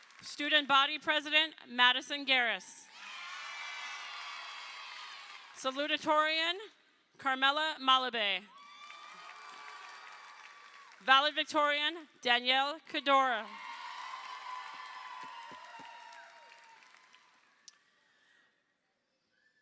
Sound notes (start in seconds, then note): 0.0 crowd applauding; 3.0 crowd applauding; 8.6 crowd applauding; 13.4 crowd cheering